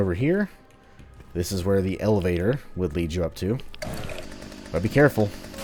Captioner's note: Smackie revving up; howling, Smackie immediately shutting it up